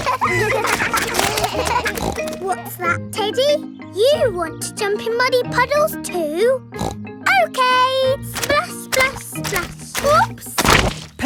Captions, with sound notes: (KIDS LAUGHING) (SNORTS) What's that, Teddy? You want to jump in muddy puddles too? (SNORTS) Okay! Splash, splash, splash! Oops!